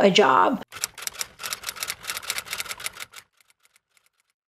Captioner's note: keyboard clicking